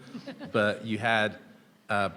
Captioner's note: people laughing